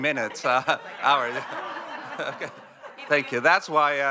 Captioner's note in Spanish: risas